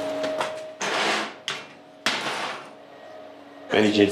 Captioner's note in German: Schiebende Geräusche wie von einer Schublade